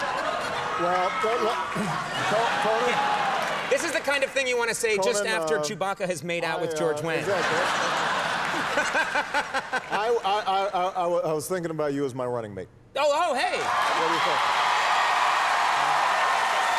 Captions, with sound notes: This is the kind of thing you wanna say just after Chewbacca has made out with George Wayne. (laughing) I was thinking about you as my running mate. Oh, hey. (audience cheers)